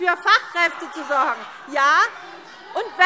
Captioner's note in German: Lachen SPD